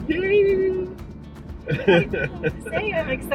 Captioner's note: laughing